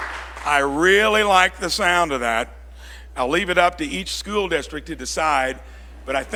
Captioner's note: applause